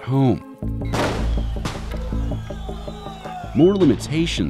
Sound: explosion; people shouting

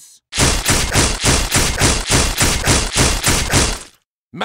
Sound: bonesawing sounds

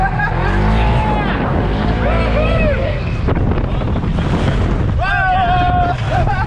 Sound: car engine revving

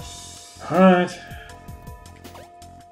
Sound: sighing

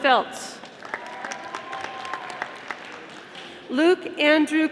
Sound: audience applauding

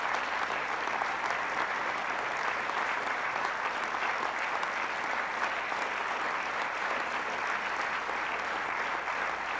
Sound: applause

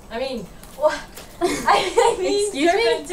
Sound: laughs

